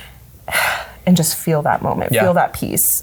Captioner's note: exhales